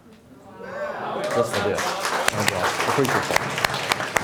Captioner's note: applauding